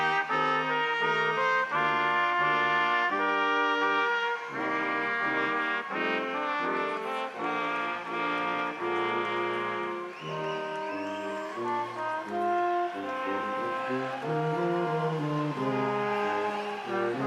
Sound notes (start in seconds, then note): 1.0 crowd applauding; 1.0 instrumental music continues